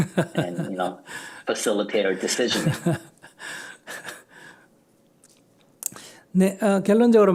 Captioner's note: Sunim Laughter